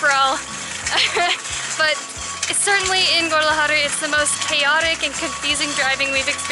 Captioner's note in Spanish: Risas